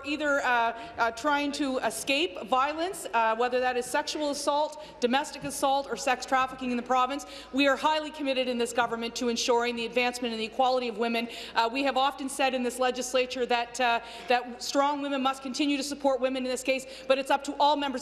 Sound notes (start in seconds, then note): none